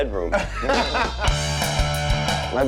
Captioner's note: men laughing; rock music